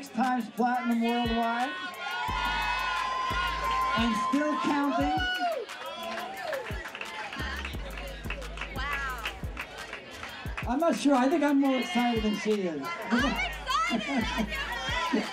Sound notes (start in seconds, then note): 3.4 people cheering; 5.2 people murmuring